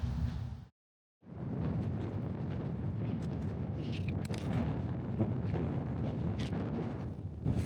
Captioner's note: wind blowing